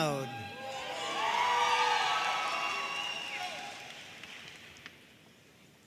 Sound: audience cheering and applauding

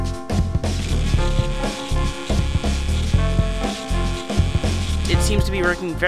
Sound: seed launcher whirring

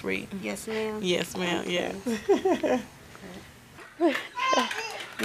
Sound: laughs; toddlers clapping and talking

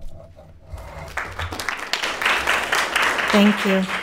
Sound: attendees applauding

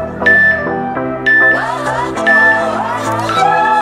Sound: workout timer beeping

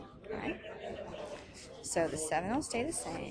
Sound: chatter

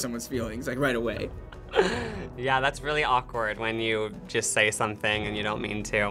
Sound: laughing

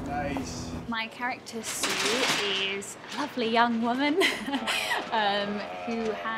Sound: laughs

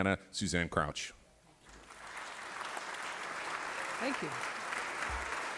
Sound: applause

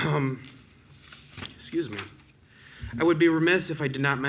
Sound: clears throat

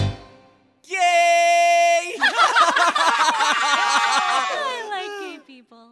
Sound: laughs

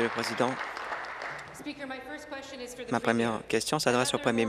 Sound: applause

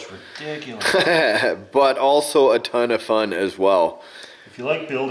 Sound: laughs

